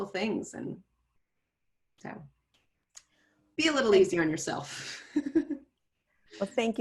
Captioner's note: chuckles